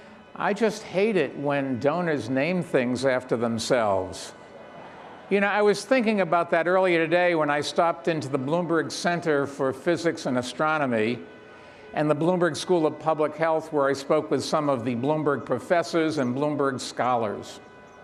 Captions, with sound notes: I just hate it when donors name things after themselves. (participants laugh) You know, I was thinking about that earlier today when I stopped into the Bloomberg Center for Physics and Astronomy, and the Bloomberg School of Public Health where I spoke with some of the Bloomberg professors and Bloomberg scholars.